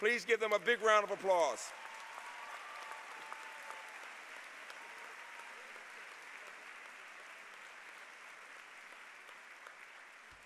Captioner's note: applause